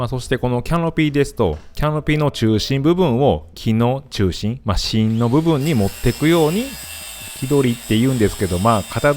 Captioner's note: wood cutting